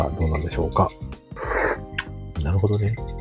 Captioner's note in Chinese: 喝咖啡的聲音